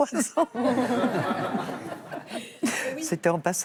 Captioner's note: laughter